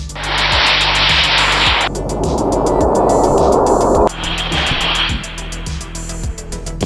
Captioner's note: rocket Whooshing